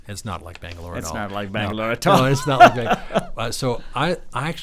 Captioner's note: laughs